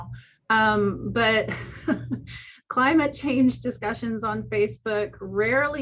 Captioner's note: laughs